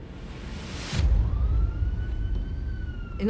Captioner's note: sirens wailing